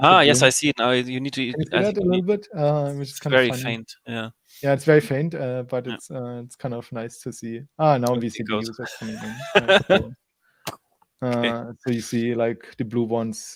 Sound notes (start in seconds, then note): 8.6 laughs